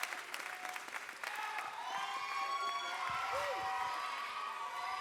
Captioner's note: audience cheers